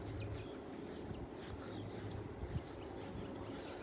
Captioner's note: birds chirping